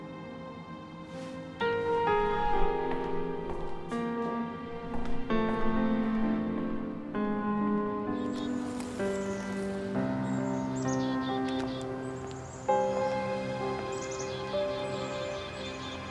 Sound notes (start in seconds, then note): 1.0 dramatic orchestral music; 9.3 birds chirping